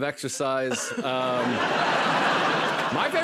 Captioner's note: laughter